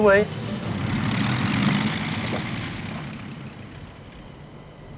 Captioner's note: engine roars